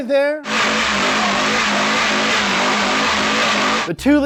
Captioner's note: engine revving